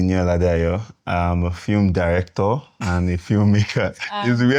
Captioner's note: laughs